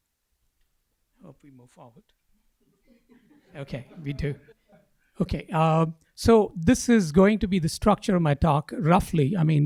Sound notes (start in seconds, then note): 2.7 laughing